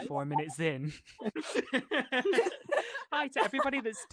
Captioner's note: laughter